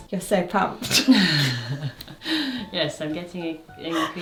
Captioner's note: chuckles